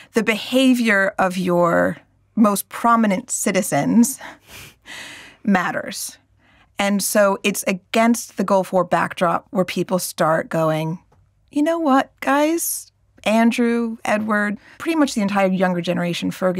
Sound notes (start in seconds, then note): none